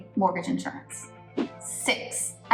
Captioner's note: air whooshes